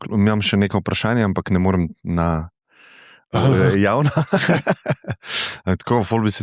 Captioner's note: laughs